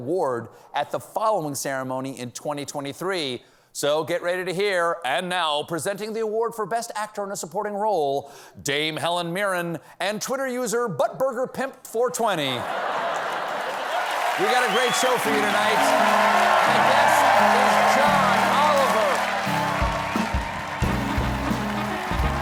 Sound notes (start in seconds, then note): 12.6 cheers and applause